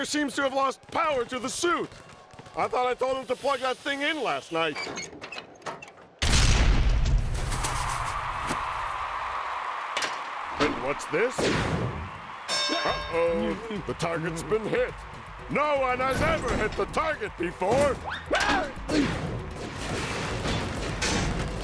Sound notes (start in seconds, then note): 7.1 cheers and applause; 12.4 bell dings